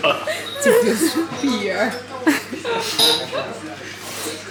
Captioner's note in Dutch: lacht heel hard